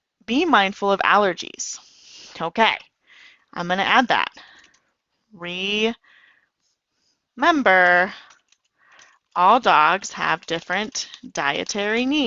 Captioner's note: typing